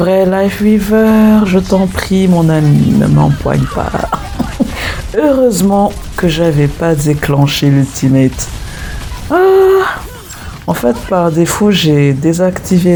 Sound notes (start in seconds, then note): 2.6 laughs